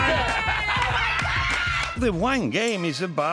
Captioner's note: laughing; cheering